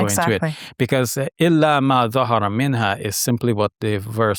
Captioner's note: speaking in Arabic